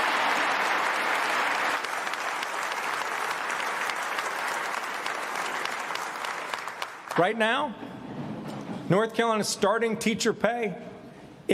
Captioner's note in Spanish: aplausos